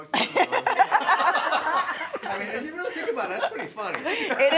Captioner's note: laughing